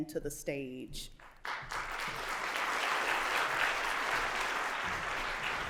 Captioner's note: applause